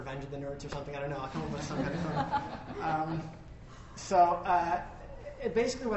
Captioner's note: laughter